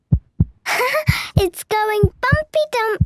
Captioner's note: heart beating